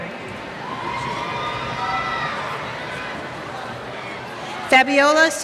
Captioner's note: cheers